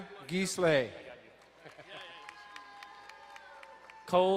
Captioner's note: distant cheering